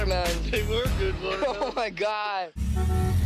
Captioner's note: chuckles